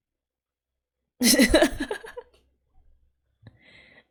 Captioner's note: laughs